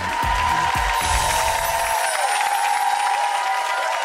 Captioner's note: applause